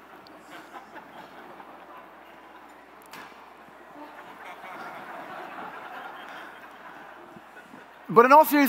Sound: scattered laughter

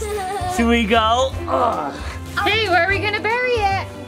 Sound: grunts

